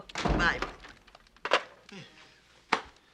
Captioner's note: scoffs